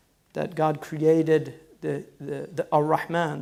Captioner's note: foreign language